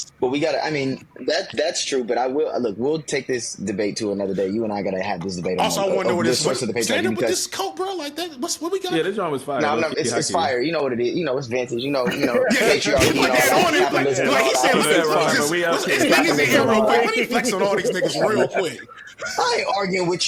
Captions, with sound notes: But we gotta, I mean, that's true, but I will, look, we'll take this debate to another day, you and I gotta have this debate on this. Also I wonder what it is. Stand up with this coat, bro, like that. What we got? Yeah, this one was fire. It's fire, you know what it is. It's vances, you know. (all chattering) I ain't arguing with